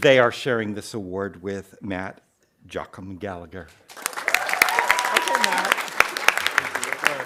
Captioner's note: audience applauding